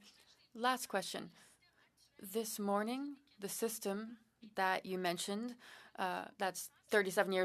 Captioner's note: speaking French